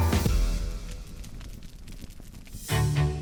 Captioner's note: crackling